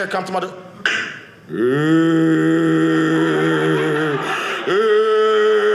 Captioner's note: crying; audience laughing